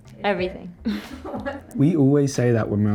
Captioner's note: laughs; crew member laughs